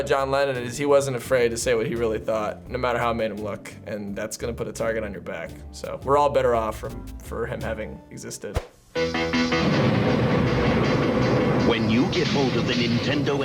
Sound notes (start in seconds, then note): 8.9 upbeat rock music; 9.2 thunder crashing; 11.7 voice-over